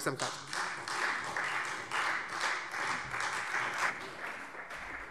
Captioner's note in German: Beifall Freie Demokraten